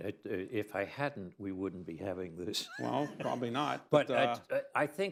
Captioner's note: laughs